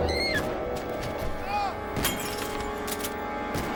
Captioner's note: woman screaming